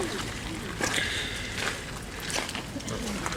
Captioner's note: breathing Heavy